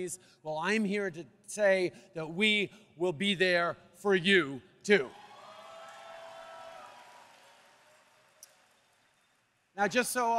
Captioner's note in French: Acclamations